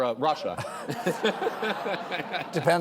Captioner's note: laughter